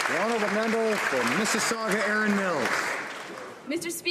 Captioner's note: applause